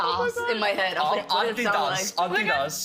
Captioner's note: German accent